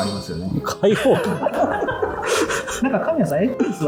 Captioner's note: laughing